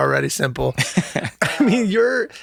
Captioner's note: Glenn laughs